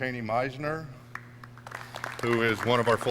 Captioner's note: clapping